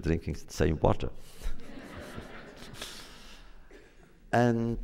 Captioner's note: laughter